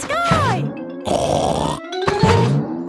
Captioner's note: snorts